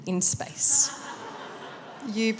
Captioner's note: laughter